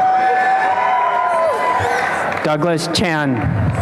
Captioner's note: applause and cheering